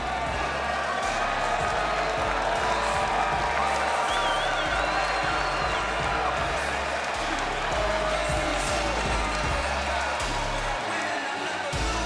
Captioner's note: applause